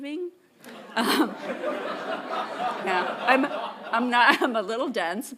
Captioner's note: audience laughing